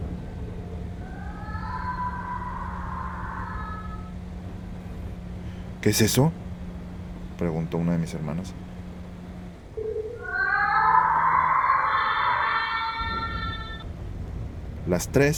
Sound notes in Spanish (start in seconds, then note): 1.0 Sonido de lamento de mujer a la distancia; 9.8 Sonido de lamento de mujer se escucha, más fuerte y cerca